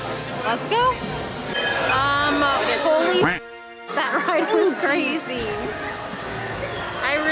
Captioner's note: duck quack